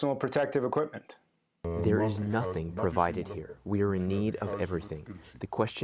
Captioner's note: through translator